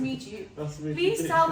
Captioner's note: laughing